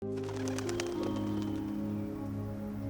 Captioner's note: birds flattering